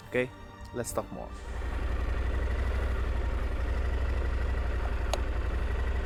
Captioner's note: engine revving